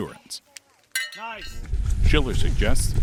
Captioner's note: bell dings